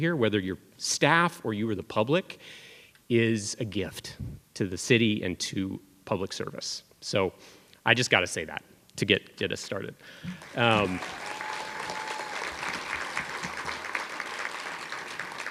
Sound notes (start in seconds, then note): 10.3 cheers and applause